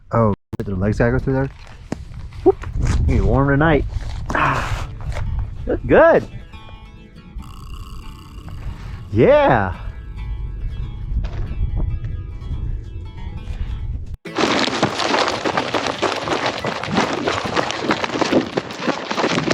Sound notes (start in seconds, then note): 4.7 sighs; 14.2 goats running